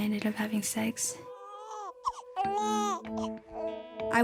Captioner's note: baby crying